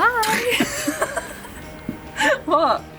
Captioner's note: laughing